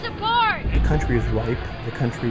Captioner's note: voiceover